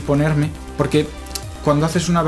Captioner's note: weird tongue noise